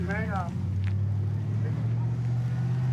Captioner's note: truck driving